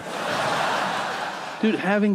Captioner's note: audience laughing